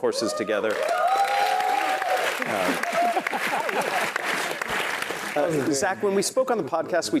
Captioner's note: applause